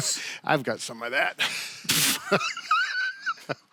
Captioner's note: laughs